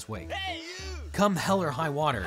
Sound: man yells

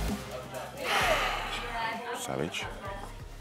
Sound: sighs

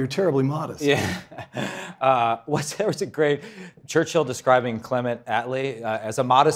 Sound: laugh

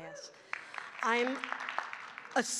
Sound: audience cheering and clapping

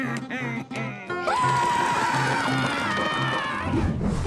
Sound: chuckles; screaming; scatting

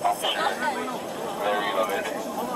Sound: radio chatter

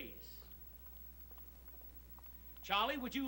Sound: footsteps

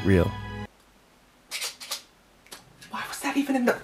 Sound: prop knife squeaks

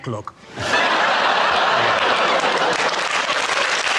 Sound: audience laughs; audience applauds

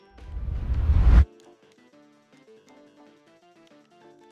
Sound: video game noise

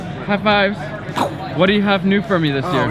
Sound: imitate boom sound effect

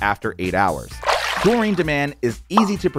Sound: water splash

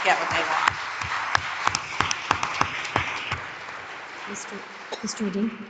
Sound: crowd applauding

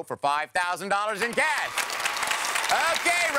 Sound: applause

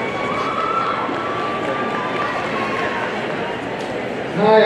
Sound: audience cheering

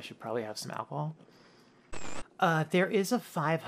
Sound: static

